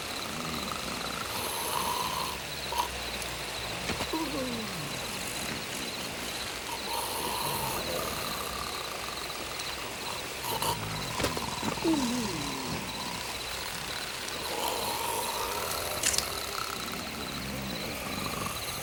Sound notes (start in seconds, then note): 1.3 Bruto snores; 6.8 Bruto snores; 11.1 head thuds; 14.4 Bruto snores; 16.0 knife flicks